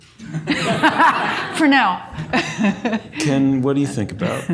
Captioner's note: audience laughs; laughs